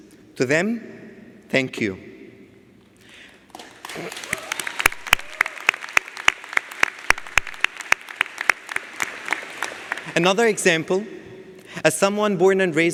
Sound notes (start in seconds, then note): 3.5 audience applauds